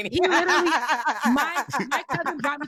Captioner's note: laughter